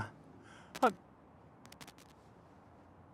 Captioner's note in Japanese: ノイズ